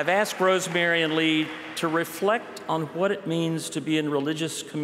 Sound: applause

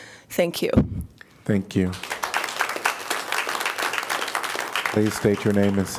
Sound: applause

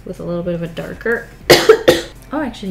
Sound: coughs

